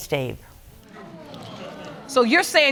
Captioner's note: audience murmuring